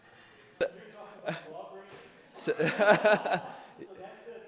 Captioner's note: laughing